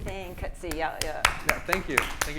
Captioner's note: audience clapping